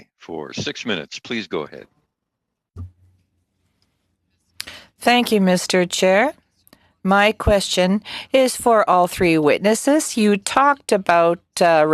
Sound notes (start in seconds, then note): 8.8 speaking French